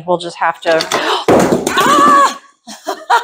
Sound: thunk

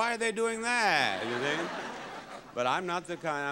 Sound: audience laughing

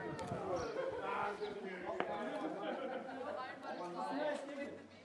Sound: tourists chatting

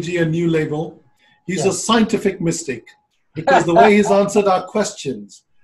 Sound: laughter

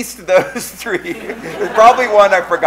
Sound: laughing

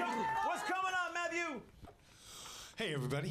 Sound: audience cheering

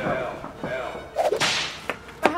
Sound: whip sound effect

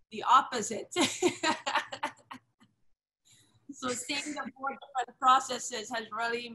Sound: laughs

